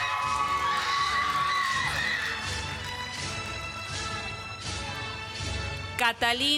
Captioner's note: applause